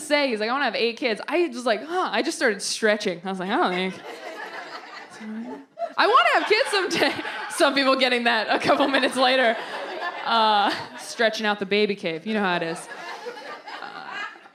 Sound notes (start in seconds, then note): 6.4 delayed laugh